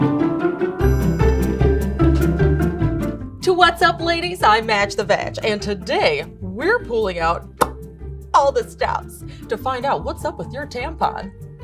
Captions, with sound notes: (upbeat introductory music) Twat's Up Ladies, I'm Madge the Vag and today, we're pulling out (pop) all the stops. To find out what's up with your tampon.